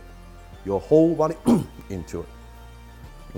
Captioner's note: oomph